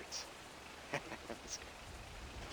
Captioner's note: laughs